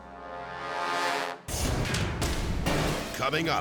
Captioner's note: text booming